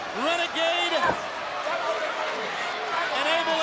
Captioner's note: crowd cheering